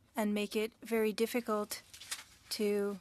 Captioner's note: speaking French